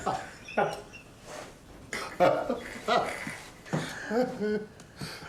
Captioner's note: laugh